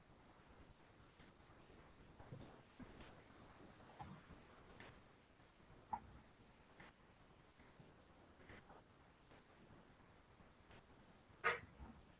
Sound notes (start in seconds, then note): 0.9 pause